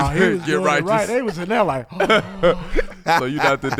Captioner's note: gasps